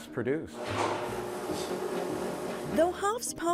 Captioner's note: machine whirring